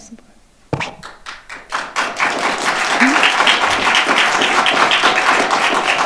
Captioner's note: audience applauding